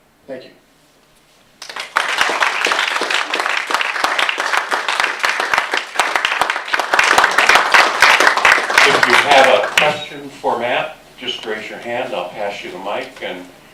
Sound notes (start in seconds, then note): 1.6 applause